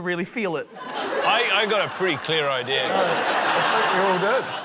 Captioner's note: laughter